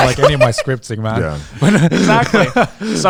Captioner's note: group laughs